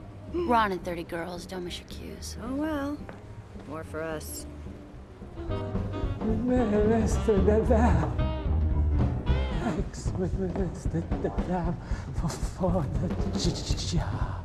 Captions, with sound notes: We're on in 30, girls. Don't miss your cues. Well, more for us. (STAMMERING) Mr. Davenport. Thanks for the job.